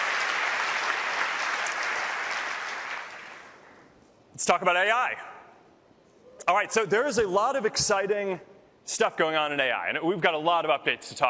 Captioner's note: applause